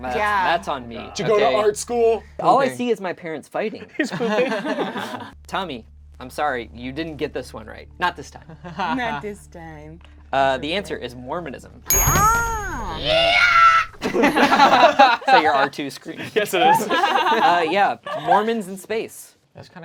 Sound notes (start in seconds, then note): 4.0 group laughs; 12.6 screeches; 14.0 group laughs; 16.5 laughs